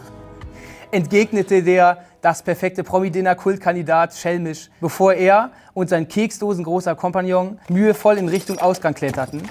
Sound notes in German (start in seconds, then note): 7.8 Klirren